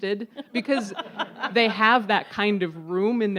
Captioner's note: audience laughs